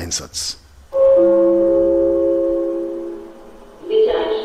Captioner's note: gong and announcement